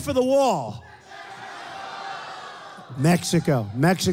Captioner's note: crowd